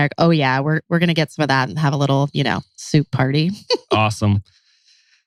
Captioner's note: laughs